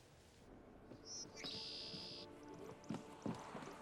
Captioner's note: birds chirping